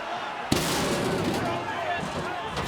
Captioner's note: stair clatters; audience chattering